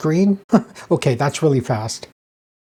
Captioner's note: chuckles